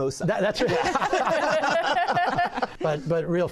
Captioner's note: laughter